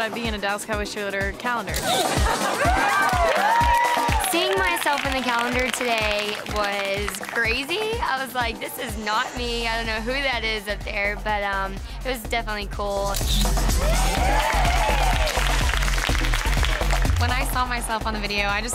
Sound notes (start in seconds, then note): 1.8 camera snaps; 2.5 all exclaim and clap; 13.2 camera snaps; 13.8 all exclaim and clap